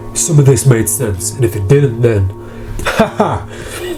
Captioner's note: laughs